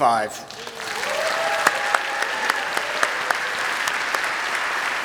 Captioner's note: applause and cheering